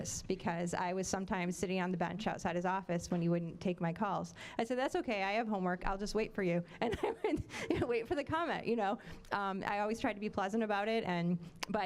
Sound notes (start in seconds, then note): 9.0 laughing